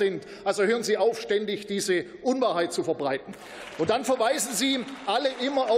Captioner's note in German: Beifall